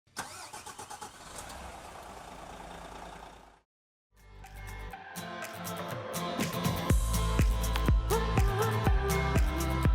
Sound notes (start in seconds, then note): 0.1 car engine starting; 4.2 bright upbeat music